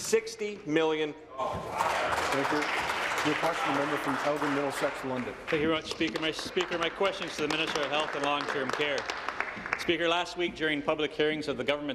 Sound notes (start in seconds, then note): 6.1 applause